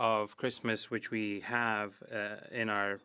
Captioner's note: speaking French